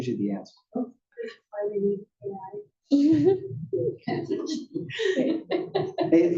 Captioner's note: laugh